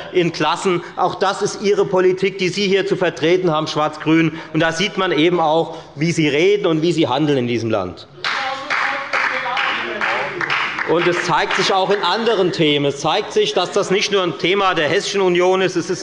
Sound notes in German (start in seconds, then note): 6.1 Beifall bei der FDP und bei Abgeordneten der SPD und der LINKEN